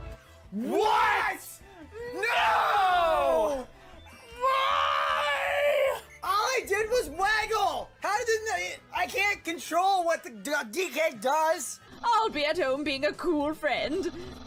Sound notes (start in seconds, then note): 4.2 makes angry screech